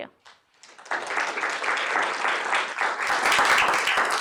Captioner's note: applause